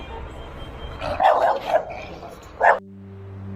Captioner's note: dogs snarling and barking